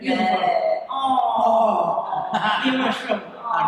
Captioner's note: chatter